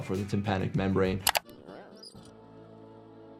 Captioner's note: gentle music; telescope squeaks; dramatic music